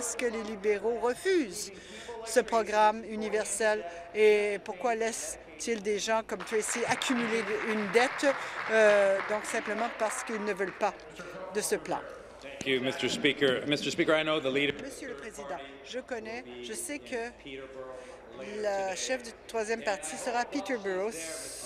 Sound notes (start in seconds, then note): 9.6 applause